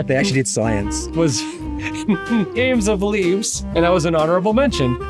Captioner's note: laughs